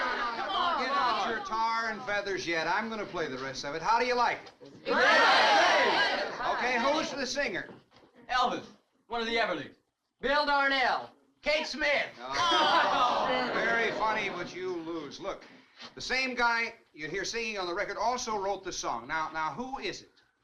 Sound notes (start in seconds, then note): 0.0 crowd groans; 4.8 crowd cheering